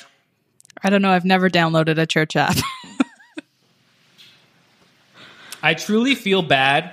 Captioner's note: laughs